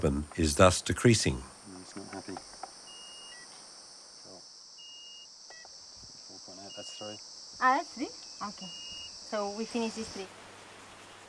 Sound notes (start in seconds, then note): 3.5 machine beeping